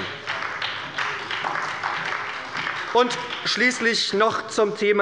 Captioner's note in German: Beifall bei der SPD